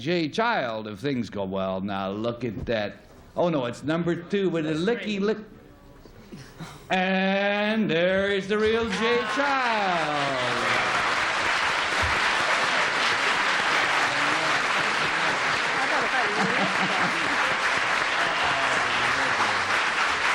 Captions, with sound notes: He'll end up with the right Jay Child if things go well. Now, look at that. Oh, no. It's number two with a licky lick. And there is the real Jay Child. [applause]